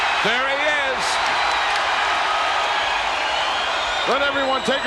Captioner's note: audience cheers